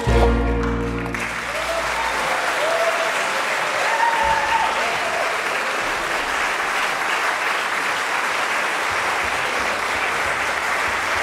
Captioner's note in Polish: aplauz